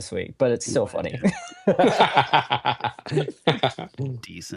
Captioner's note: laughter